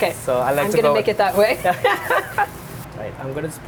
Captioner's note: laughs